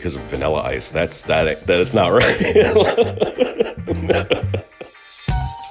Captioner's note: laughter